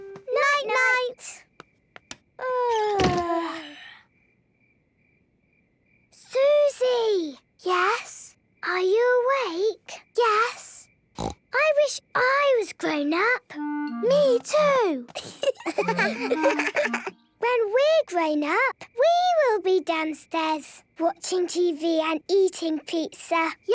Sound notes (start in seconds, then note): 2.2 light clicks; 3.3 both yawning